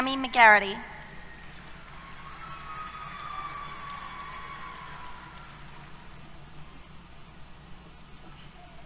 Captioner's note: applause, Cheers